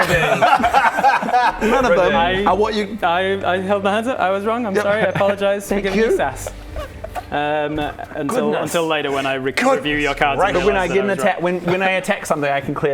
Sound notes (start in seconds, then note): 0.0 vindicated laughter